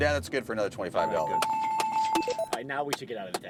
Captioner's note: clapping